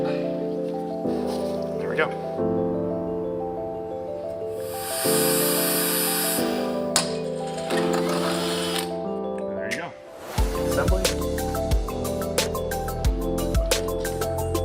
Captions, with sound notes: There we go. (grinder whirring) There you go. (upbeat lively music)